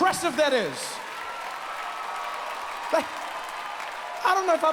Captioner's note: audience cheers